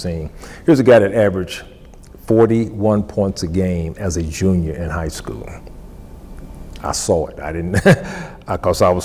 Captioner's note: laughs